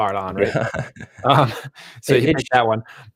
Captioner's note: chuckling